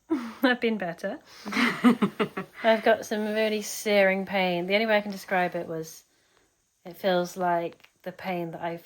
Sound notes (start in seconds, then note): 1.4 laughs